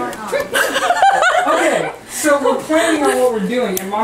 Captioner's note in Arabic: الكل يضحك